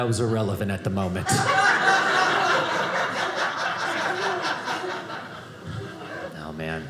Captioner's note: audience laughing